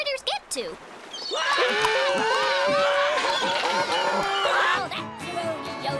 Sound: crying

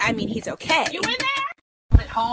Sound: knocking

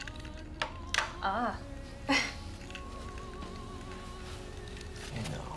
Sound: chuckles

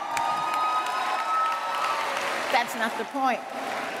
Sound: cheers and applause

